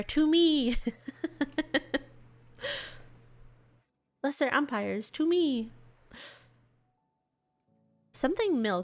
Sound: giggles in ump RP

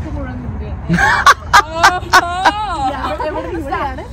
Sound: laughing

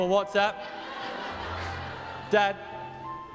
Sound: audience laughs

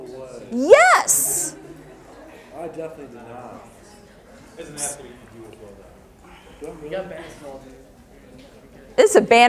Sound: audience chatter

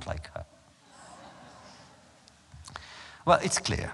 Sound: laughter

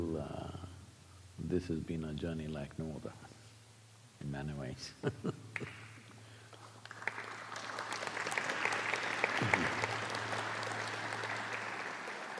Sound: laughs; applause

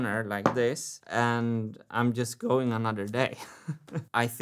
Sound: laughs

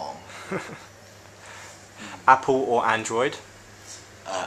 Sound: laughs

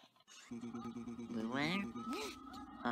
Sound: glitching groaning

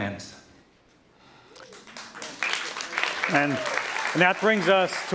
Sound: applause

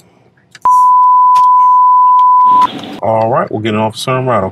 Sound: beeping

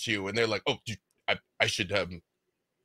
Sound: stutters

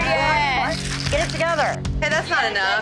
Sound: mixer rattling

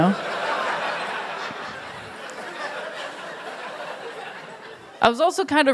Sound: laughter

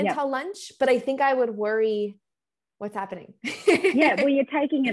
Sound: laughs

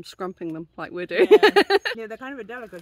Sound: laughing

